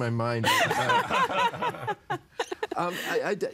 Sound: everyone laughing

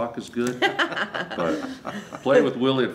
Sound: laughs

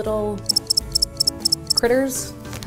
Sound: clinking

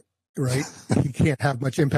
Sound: laughs

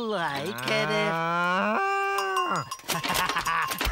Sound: cowbell Dings

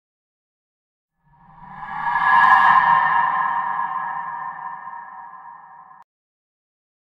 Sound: sound of horror

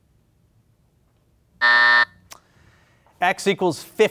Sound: buzzer buzzes

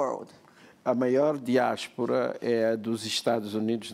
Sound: speaking portuguese

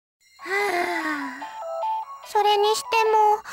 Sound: sigh

